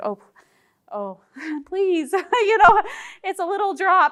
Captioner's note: chuckles